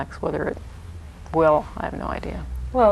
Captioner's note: none